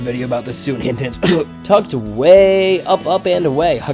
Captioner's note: cough